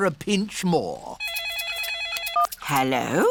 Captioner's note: phone rings